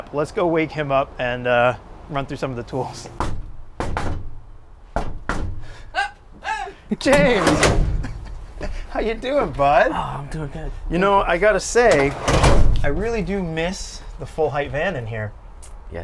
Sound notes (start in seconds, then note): 3.7 knocking on door; 7.8 laughs